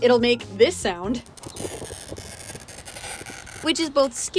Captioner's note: glass screeching